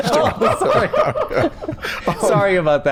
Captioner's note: laughter